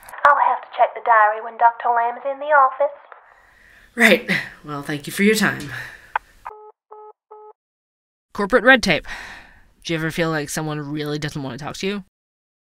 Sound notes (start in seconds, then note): 6.4 sound: call ends